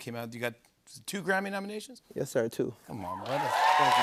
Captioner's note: cheers and applause